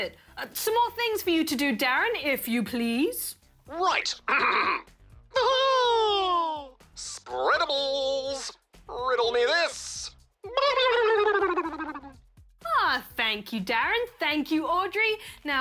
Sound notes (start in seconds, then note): 3.9 clears throat; 4.2 laughs; 10.5 blows bubbles